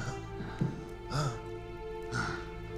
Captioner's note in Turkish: Nefes sesi